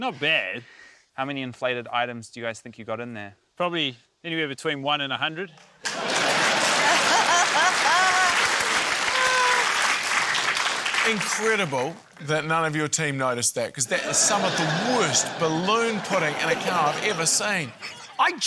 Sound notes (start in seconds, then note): 5.8 cheering, applause, laughter